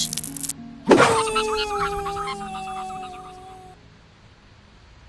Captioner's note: Bomby And Snowball Screaming